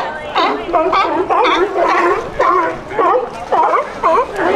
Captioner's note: sea lion calls